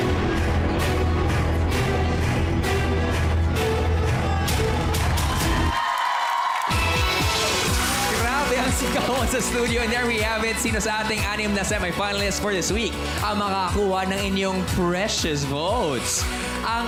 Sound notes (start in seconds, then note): 6.1 applause, cheering